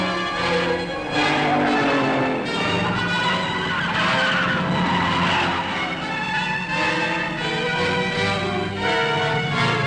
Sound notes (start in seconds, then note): 1.6 engine roaring; 3.3 tires squealing